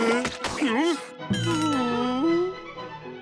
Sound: groaning

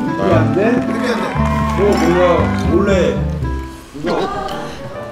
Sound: slurp

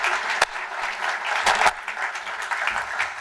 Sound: applause

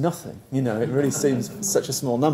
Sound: laugh

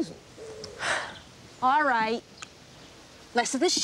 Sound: sigh

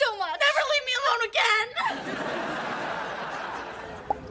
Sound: audience laughing

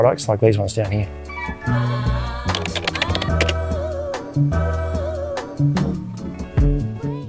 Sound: keyboard clicking

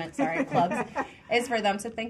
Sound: woman laughing

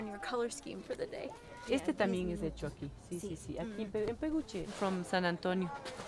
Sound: in Spanish

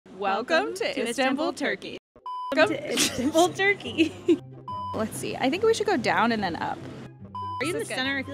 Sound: laughter

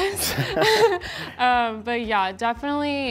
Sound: chuckles

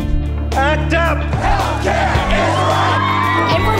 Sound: chanting

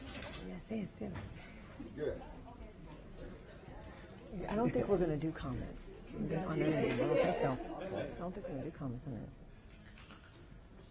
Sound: applause

